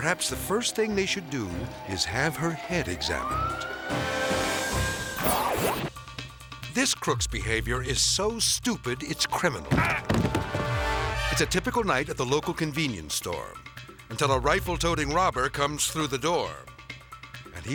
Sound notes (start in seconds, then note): 2.7 siren blaring; 6.0 upbeat music; 9.7 man grunts and collapses